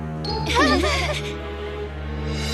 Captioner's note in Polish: śmieją się